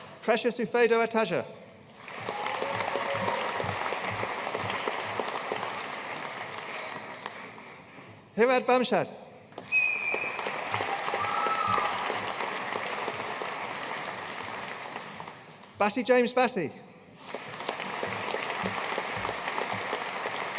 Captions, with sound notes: Precious Ufedo Ataja. (AUDIENCE CHEERING AND APPLAUDING) Hirad Bamshad. (AUDIENCE CHEERING AND APPLAUDING) Bassey James Bassey. (AUDIENCE APPLAUDING)